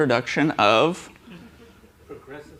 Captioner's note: laughter